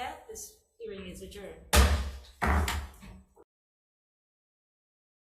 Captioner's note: gavel bangs